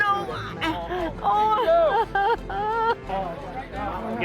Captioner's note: groaning